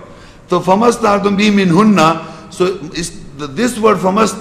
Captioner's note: Arabic